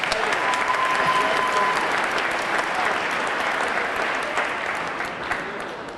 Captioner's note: audience cheering; audience clapping